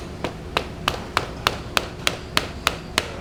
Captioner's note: pounding